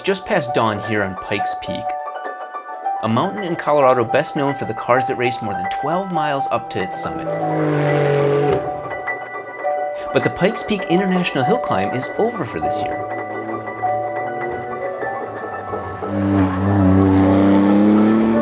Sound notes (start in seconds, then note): 7.2 car engine roaring; 15.2 car engine roaring